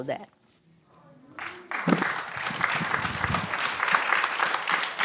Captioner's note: applause